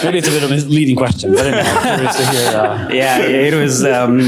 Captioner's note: laughter